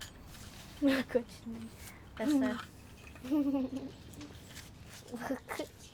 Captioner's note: children speaking softly